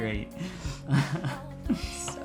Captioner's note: laughing